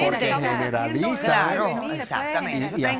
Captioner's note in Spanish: Hablan al unísono